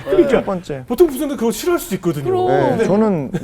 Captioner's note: laughing